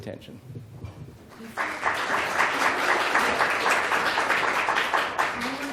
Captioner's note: applause